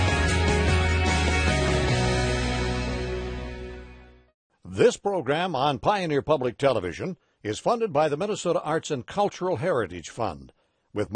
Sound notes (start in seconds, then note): 4.9 voiceover